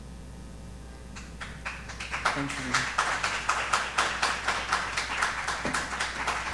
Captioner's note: audience applauding